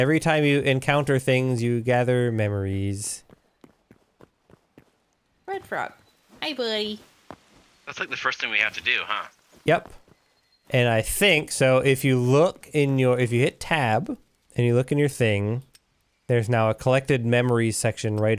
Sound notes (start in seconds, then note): none